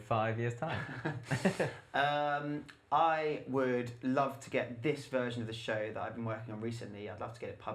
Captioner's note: laughter